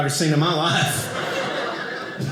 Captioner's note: audience laughing